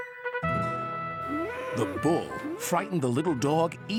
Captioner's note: growl